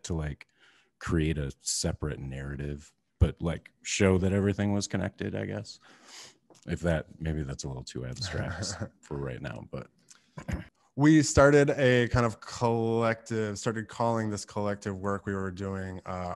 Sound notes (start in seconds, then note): 8.2 laughing